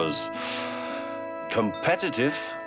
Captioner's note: sighs